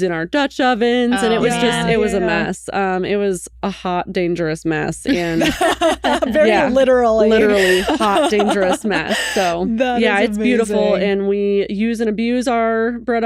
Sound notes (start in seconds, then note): 5.1 laughing